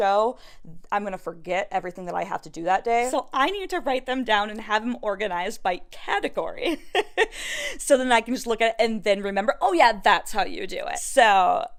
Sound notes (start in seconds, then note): 6.8 such cute gigglies